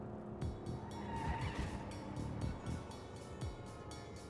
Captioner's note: tires squeal